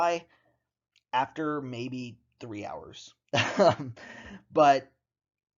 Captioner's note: chuckles